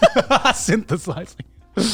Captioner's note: laughing